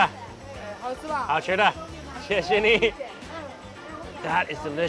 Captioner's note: speaks in a foreign language; woman speaks in a foreign language; speaks in a foreign language